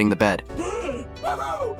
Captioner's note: gasping